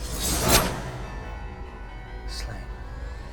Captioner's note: sickle swishes